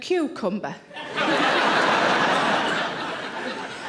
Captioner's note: audience laughing